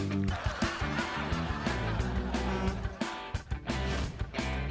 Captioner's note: laughter